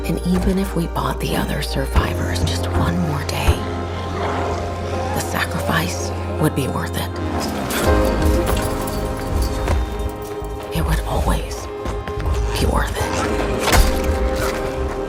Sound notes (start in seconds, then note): 7.4 fence rattling; 13.5 squelching